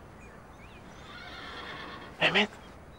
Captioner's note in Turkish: Hayvan Sesi